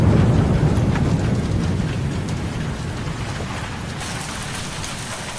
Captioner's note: thunder cracks